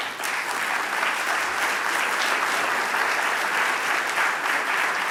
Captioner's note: audience applause